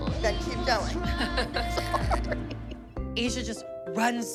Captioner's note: laughter